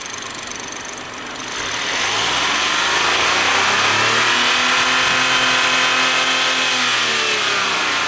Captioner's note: revving